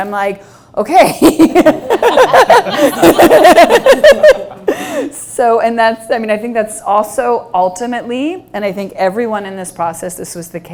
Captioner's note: laughs